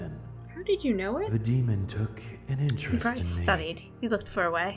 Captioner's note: game audio